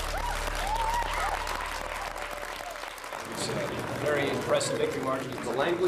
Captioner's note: cheers & applause